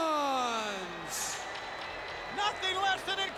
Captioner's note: crowd boos